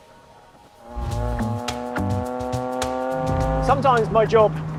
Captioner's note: engine roaring; upbeat music